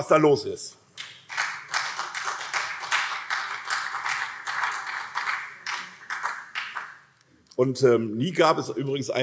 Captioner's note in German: Beifall SPD und CDU